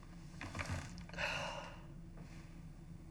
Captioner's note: deep sigh